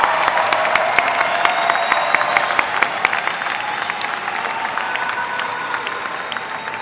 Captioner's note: applause